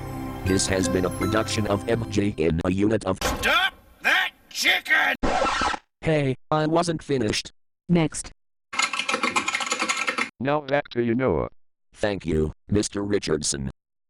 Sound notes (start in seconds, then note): 5.2 recprd scratching; 8.7 keyboard keys clicking